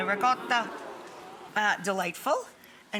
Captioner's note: audience moans